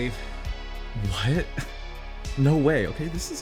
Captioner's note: scoffs